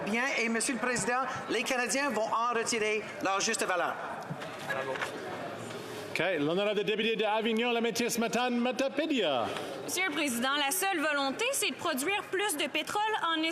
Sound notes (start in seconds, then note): 2.6 speaking French